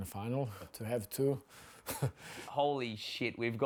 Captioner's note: chuckles